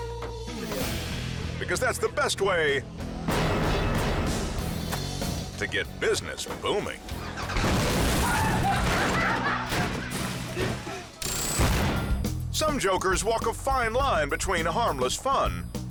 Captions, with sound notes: Because that's the best way (rock music) to get business booming. (car explode) Some jokers walk a fine line between harmless fun